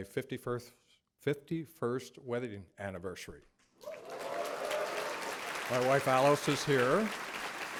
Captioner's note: applause